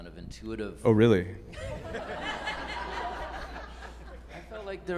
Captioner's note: group laughing